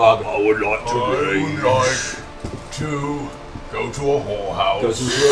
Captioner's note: Grog voice